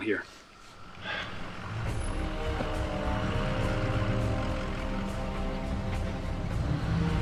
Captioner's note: truck rumbles; tense instrumental music